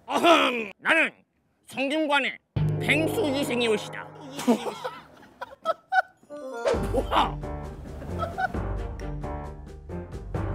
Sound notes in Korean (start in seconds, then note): 4.2 푸핫